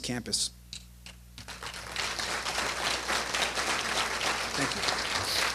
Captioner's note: applause